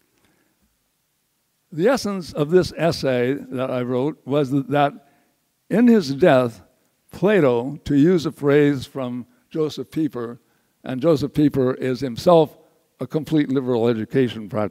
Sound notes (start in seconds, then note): none